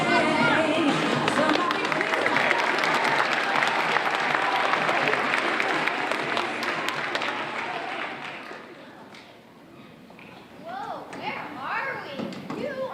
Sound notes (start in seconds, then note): 1.0 audience applauding